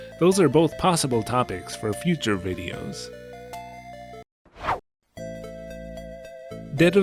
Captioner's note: whoosh